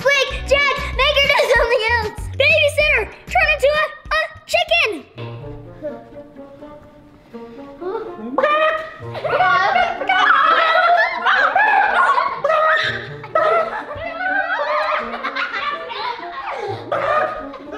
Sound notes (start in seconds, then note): 8.7 clucking